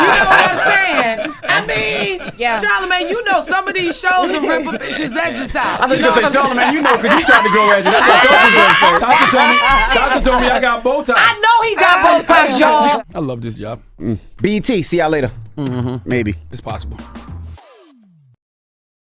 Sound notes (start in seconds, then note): 0.0 everyone laughing; 8.0 everyone laughing